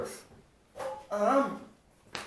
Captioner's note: clang